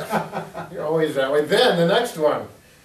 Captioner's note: laughing